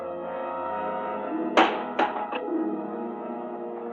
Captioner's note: window banging